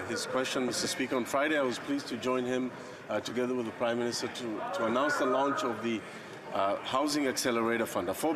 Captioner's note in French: voix de l'interprète